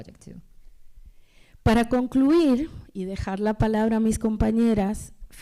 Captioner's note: speaking spanish